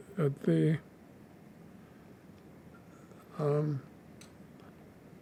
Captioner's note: pauses 6 seconds